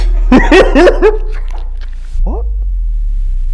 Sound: he laughs

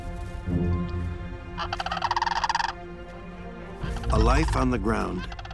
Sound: cranes calling

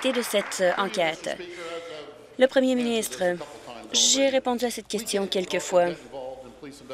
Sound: applause

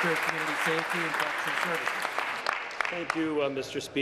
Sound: applause

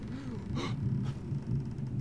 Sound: gasp

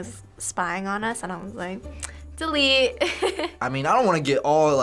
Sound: laughs

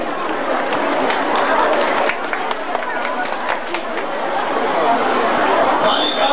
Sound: people applauding

